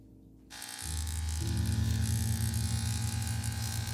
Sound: shaver buzzes

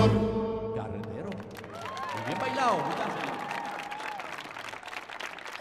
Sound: audience applauding

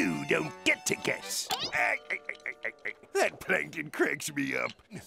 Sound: laughing

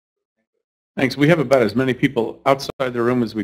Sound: voiceover

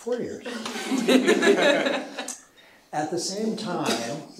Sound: chuckling

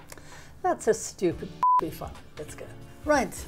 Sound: beep

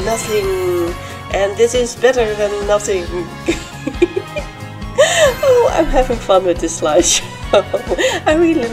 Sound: giggling

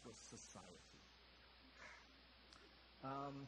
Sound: sighs

